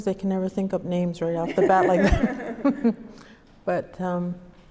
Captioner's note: both laugh